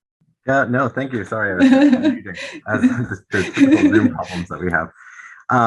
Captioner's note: laughing drowns speaker's words